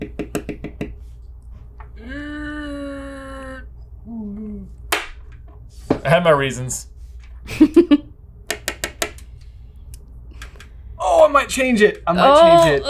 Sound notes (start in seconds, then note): 0.0 marker tapping; 2.0 groaning; 4.9 marker thumps; 7.4 laughing; 8.5 marker tapping